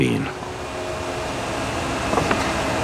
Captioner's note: machine whir